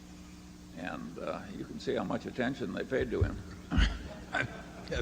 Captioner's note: Buffett laughs